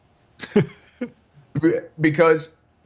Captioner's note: laughing